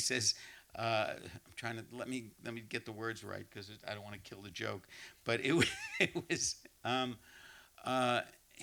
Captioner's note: laughs